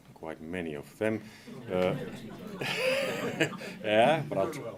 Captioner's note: laughter